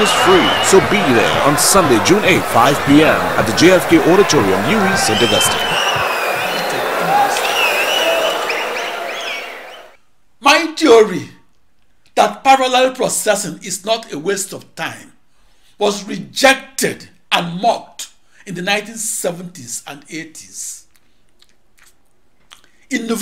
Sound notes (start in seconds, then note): 6.3 wild applause and cheering for 22 seconds